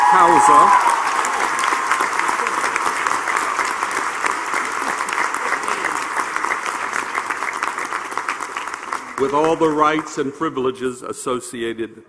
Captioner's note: applause